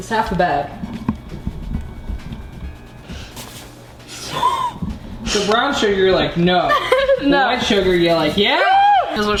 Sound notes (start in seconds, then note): 4.0 gasps; 6.6 laughs